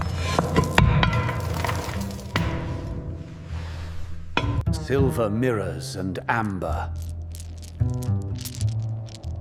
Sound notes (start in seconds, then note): 6.6 rock scraping